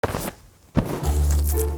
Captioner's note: pillows whooshing; playful music